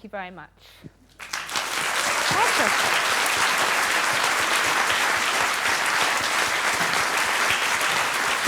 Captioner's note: applause